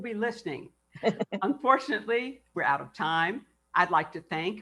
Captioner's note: laughs